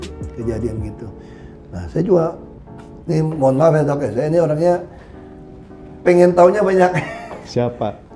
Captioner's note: laughing